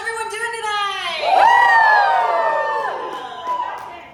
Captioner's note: audience Cheers